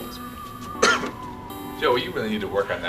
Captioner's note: coughing